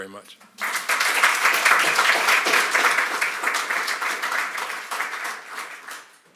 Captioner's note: applause